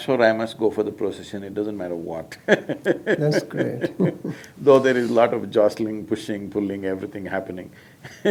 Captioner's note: laughs; laughs